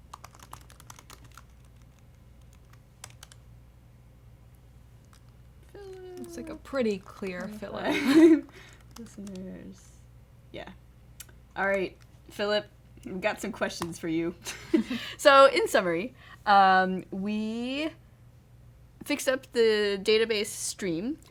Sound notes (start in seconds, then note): 7.8 laughter